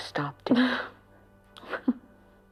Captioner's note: laughing